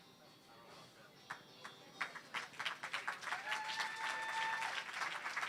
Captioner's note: applause